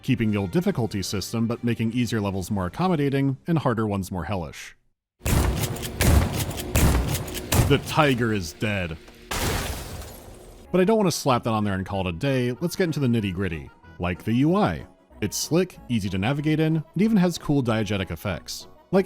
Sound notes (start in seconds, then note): 5.2 bang; 9.2 bloosh